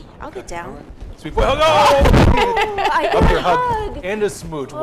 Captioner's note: dog jumping; group laughing